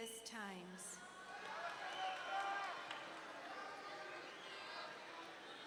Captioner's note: audience cheering